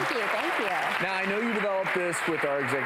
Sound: applause

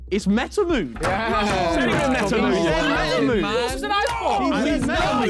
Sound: men cheering

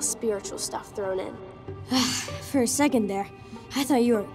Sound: sighing

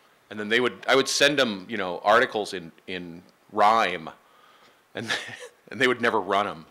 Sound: laughing

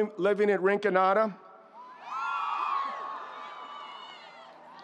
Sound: students cheering

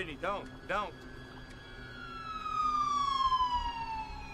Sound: SIRENS WAlLlNG

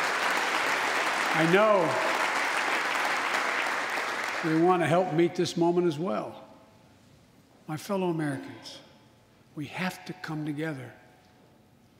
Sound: applause

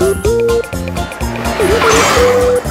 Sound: car engine revving

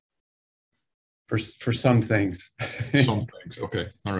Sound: laughs

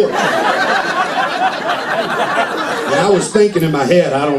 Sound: laughter

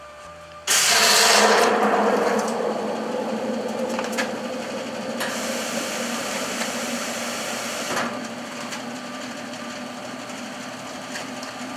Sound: sound of machine turning on

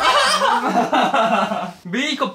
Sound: ha ha ha

